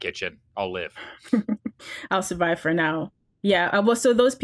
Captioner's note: laughs